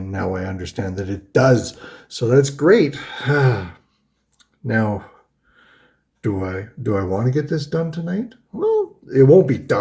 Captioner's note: huffs